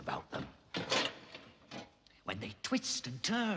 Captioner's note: dishes rattling